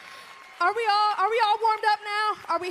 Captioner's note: cheers